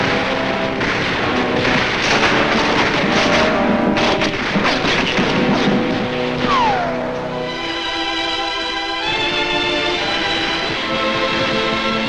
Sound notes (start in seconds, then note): 1.9 guns firing; 8.1 somber orchestral music